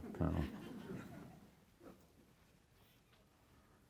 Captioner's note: audience chuckles